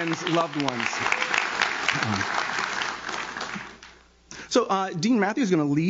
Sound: audience claps

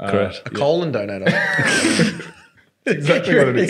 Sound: laughing

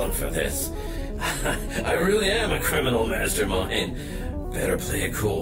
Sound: chuckles

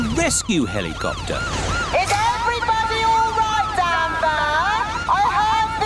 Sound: over megaphone

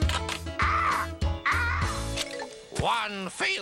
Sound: cawing

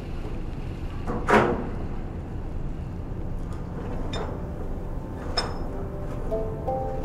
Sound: clanking of metal

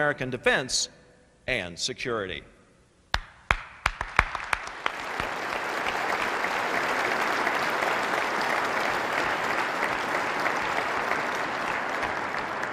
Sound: applause

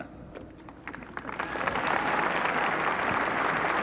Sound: applause

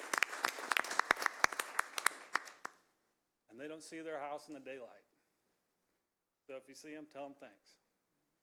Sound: applause

